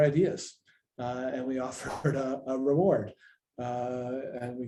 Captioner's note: laughs